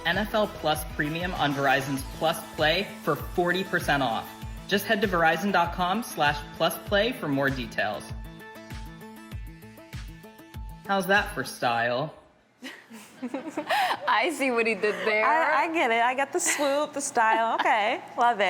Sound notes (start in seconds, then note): 12.6 chuckles